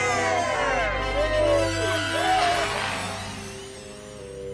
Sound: cheering

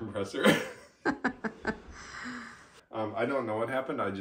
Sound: laughs

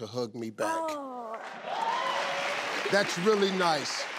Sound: crowd cheering

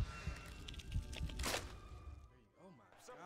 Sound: rhythmic beating and metallic screeching

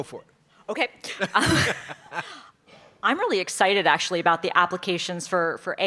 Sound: laugh

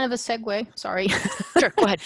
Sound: laughter

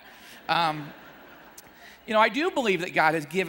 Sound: audience laughing

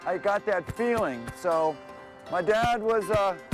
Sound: pounds chest

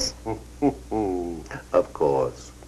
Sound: Francis chuckles

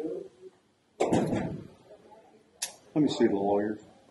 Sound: door shuts

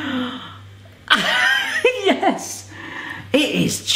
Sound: laughing

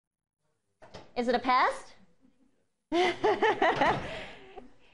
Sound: laughing

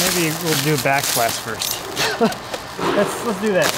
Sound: laughs

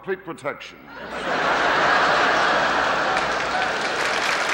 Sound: audience laughing; audience applauding

